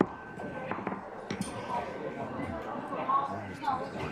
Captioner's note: assembly chattering